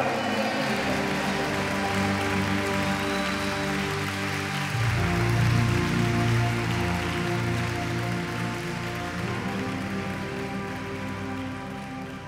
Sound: applause

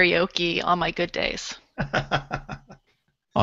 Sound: laughter

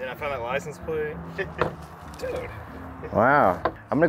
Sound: laughs

